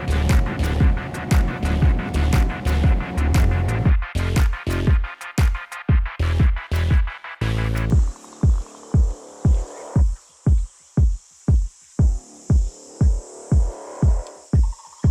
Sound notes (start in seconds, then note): 0.0 intense music; 0.0 engine humming; 3.7 intense music; 7.8 crickets chirping; 12.0 drum thumping; 14.6 drum thumping